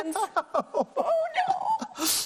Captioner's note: laughs